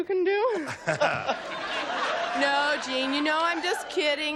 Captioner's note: laughter